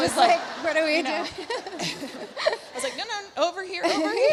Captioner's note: Lauren laughs; Alexis laughs